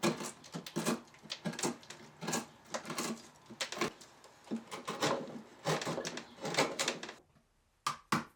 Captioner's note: wood scraping; hammer knocking